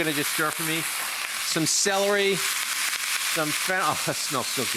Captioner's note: pan sizzling